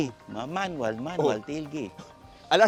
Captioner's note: phone ringing